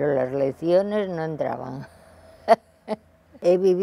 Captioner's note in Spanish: Ríe